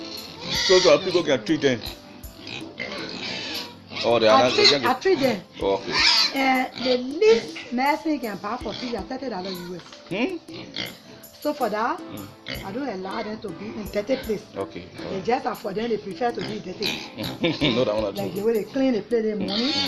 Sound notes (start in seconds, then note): 16.4 laughs